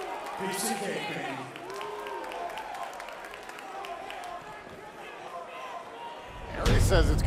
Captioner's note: crowd cheering